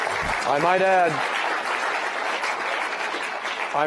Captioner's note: applause